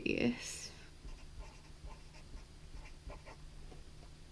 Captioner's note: pen scratching